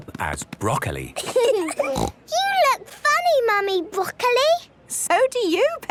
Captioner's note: laughing, snort